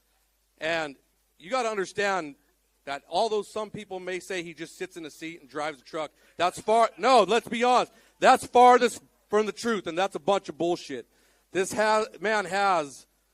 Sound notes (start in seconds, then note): none